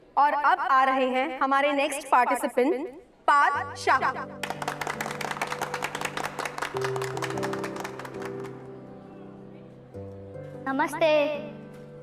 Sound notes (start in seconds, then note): 4.4 clapping